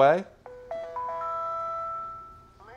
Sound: chime sequence

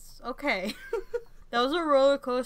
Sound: laughter

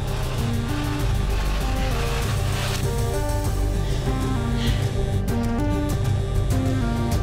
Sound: phone vibrating noise gets louder and louder

